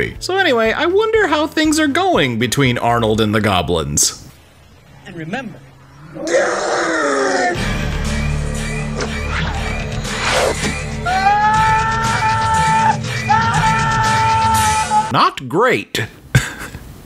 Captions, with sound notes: So anyway, I wonder how things are going between Arnold and the Goblins? And remember... *ANGRY GOBLIN SOUNDS* *SCREAMING DUMBASS SOUNDS* Not great.